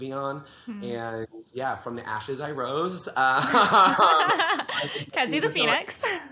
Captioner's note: both laugh